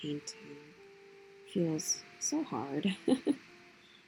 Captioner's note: small laugh